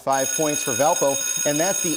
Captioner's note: bell rings